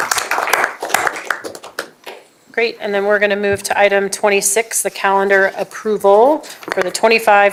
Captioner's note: applause